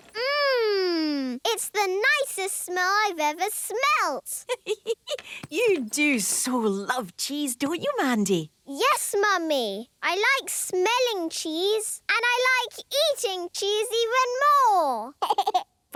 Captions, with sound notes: - Mmmm! It's the nicest smell I've ever smelt! - (giggling) You do so love cheese, don't you, Mandy? - Yes, Mummy! I like smelling cheese. And I like eating cheese even more!